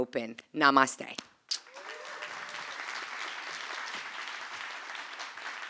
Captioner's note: applause